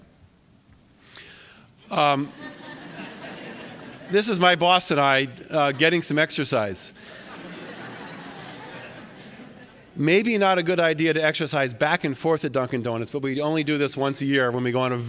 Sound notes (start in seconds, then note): 7.0 laughter